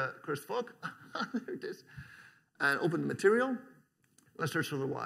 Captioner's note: chuckles